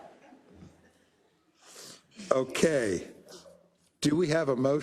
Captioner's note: laugh